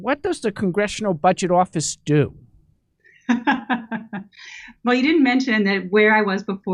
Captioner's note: laughs